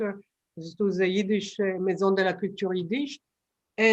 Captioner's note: non-english